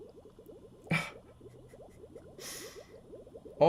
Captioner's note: chuckles